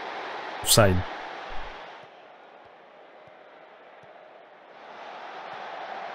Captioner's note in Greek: χειροκρότημα